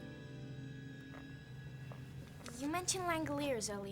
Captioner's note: none